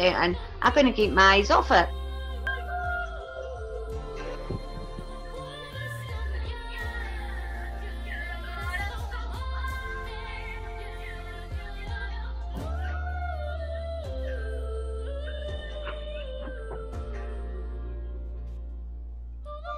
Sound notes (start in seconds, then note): 4.0 breaths in mic from boredom